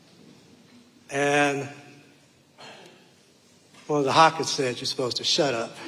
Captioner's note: sighs